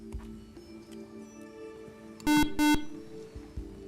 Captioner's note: buzzer